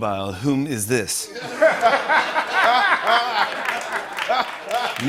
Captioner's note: laughter